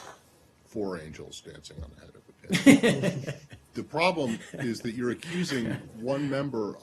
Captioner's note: laughter